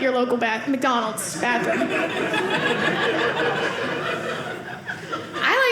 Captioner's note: audience laughing